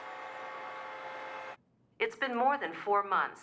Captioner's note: car horns honking